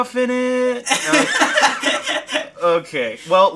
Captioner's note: laughing